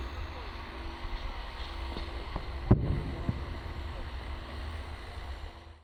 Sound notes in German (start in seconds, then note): 2.3 Entfernte Detonation